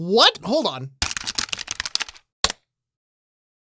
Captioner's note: clacking on keyboard